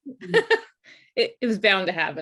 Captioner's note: laughs